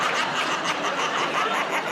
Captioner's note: laughter